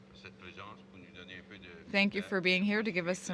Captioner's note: speaking in french